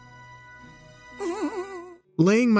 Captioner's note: whimpers